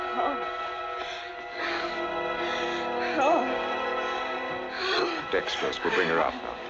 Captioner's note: suspenseful music continues; Janet panting